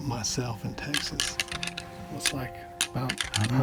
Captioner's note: antlers clicking